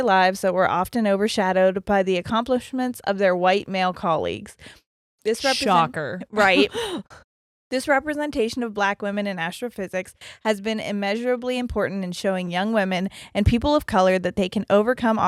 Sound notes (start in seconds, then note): 6.4 chuckles